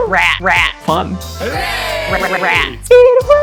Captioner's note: crowd